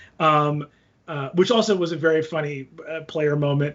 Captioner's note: none